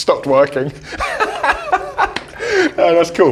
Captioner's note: laughs